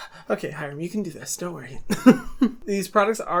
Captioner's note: heavy breathing; laughing